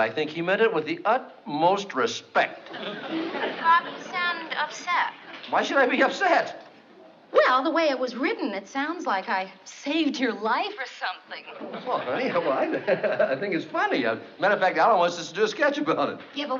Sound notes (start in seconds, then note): 3.5 on phone; 11.4 laughs